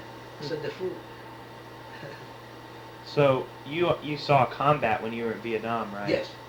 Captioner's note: laughs